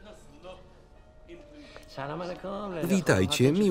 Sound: foreign language

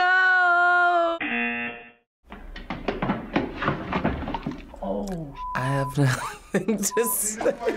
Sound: buzzer; laughs

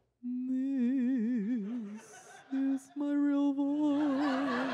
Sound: ghostly moaning

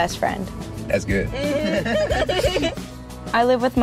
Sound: laughing

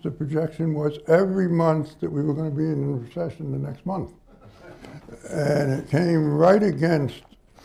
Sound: laughter

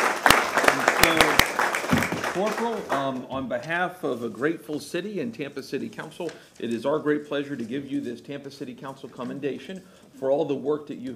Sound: applause

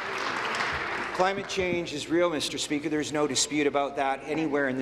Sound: applause

